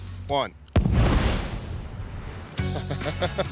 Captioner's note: explosion; laughs